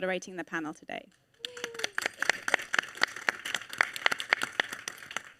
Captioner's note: audience applauding